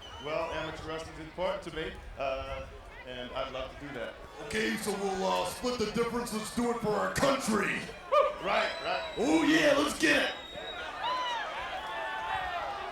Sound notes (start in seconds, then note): 10.7 applause